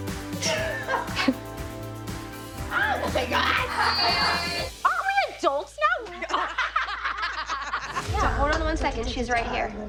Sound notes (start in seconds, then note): 0.4 laughing; 6.2 all laughing